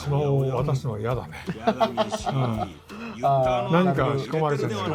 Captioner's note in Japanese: 笑い